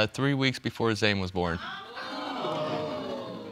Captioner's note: audience gasping